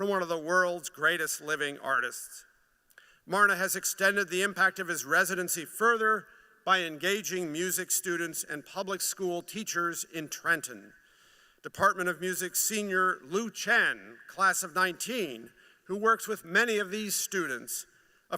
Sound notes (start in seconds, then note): none